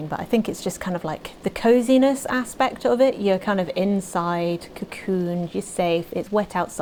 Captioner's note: rain effects start